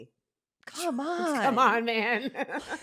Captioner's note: laughs